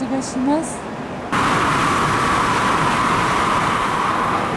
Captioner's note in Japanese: 通過列車の音